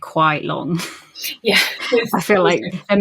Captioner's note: laughing